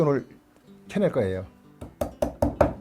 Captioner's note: hammering sound